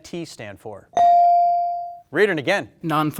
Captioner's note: bell dings